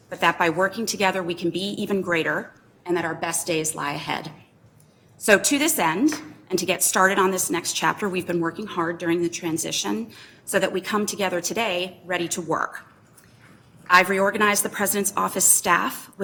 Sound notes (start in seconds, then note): none